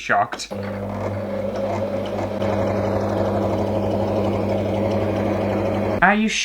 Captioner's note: sewing Machine Motor